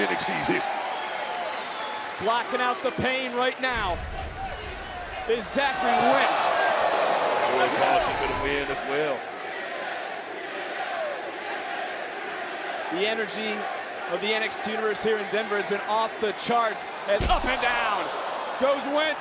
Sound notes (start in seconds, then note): 10.3 crowd chants